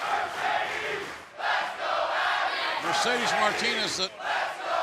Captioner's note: fans chanting